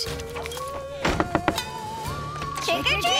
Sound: knocking

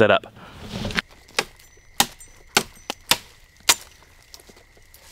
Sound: chopping

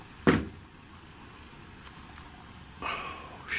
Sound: loud thumping

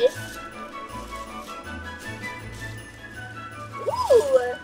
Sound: bag rustling

